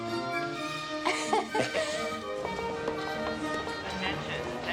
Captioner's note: chuckles